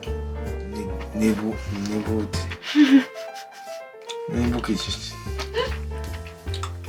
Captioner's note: laughs